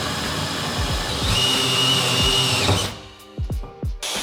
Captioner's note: drilling; vacuum